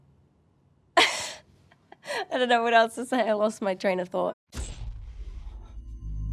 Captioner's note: laughs